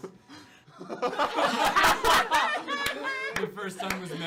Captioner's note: laughter